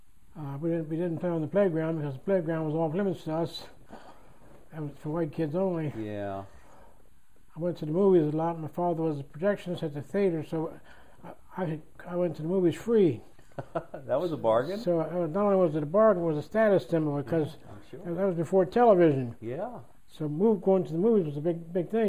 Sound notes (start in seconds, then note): 13.4 laughter